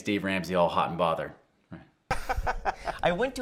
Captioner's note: both laugh